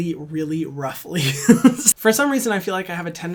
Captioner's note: laughs